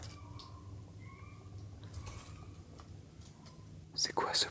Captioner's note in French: On peut entendre des cris au loin